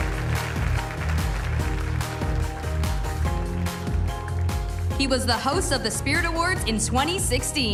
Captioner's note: cheers and applause